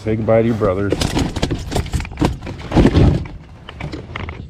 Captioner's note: fish flopping